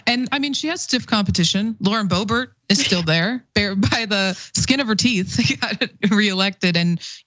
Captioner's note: laugh